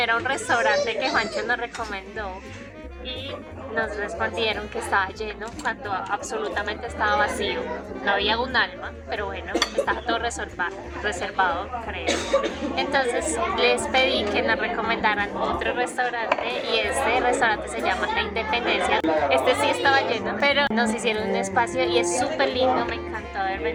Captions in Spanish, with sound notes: a un restaurante que Juancho nos recomendó y nos respondieron que estaba lleno cuando absolutamente estaba vacío, no había un alma, pero bueno, [risas] estaba todo reservado, creo. Entonces les pedí que nos recomendaran otro restaurante y este restaurante se llama La Independencia. Este sí estaba lleno, pero nos hicieron un espacio y es superlindo. Me encantó haber